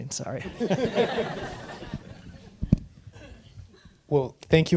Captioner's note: audience laughing